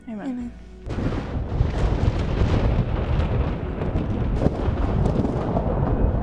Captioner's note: lightning crackles